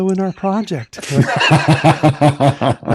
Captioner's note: laughter